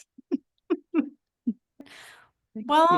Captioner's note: chuckling